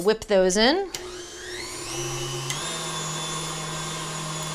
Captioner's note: mixer whirs